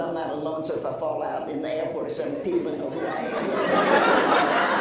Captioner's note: laughs